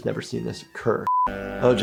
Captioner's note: beep